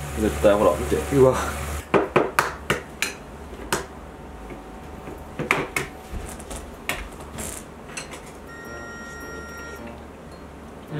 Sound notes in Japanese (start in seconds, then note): 3.7 卵を割る音